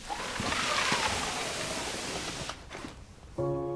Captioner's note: sliding basket